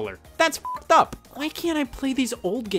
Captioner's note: beep